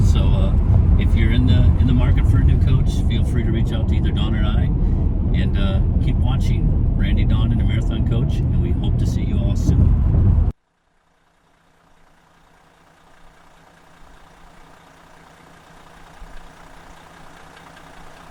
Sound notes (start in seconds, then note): 11.6 engine running